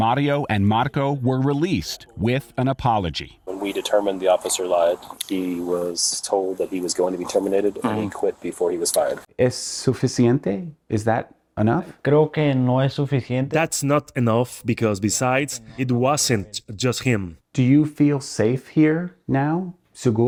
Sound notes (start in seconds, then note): 8.8 speaks in Spanish; 18.7 speaks in Spanish